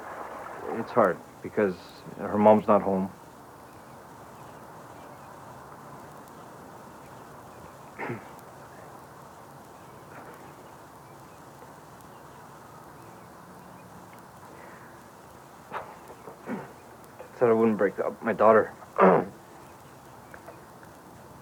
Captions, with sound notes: >It's hard because her mom's not home. Said I wouldn't break up. My daughter, (clears throat)